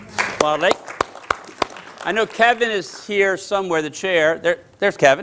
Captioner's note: applause